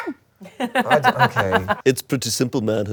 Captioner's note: laughing